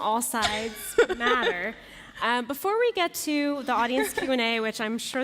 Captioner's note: laughter